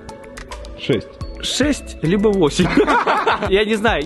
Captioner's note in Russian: смеется